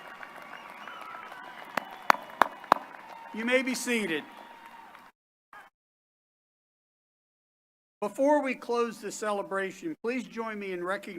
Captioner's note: cheers and applause